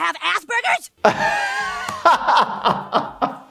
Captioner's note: laughs